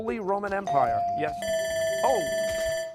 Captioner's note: buzzer